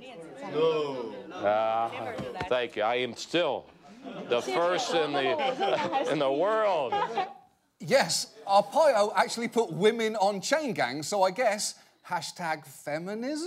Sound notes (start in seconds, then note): 5.7 woman speaking chinese